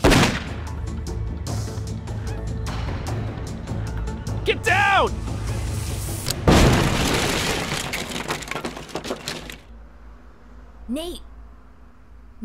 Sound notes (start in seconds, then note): 0.0 gunshot fired; 6.3 grenade explodes